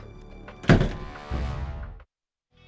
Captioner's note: door slams